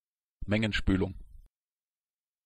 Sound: fast Pronunciation

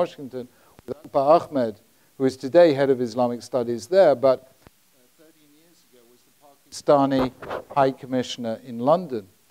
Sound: mic cuts out

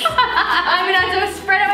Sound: laughing

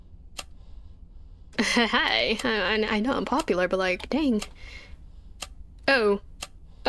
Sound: laughs

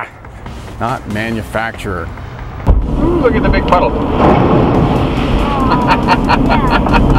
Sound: laughing

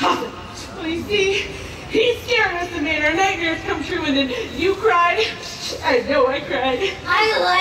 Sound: sobbing

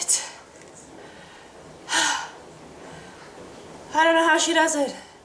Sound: sighs

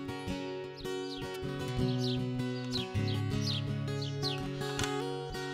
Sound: birds chirping; gentle guitar music

